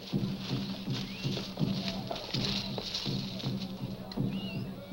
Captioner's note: birds chirping